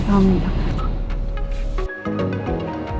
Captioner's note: engine turned OFF